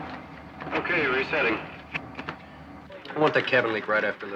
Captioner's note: man On Radio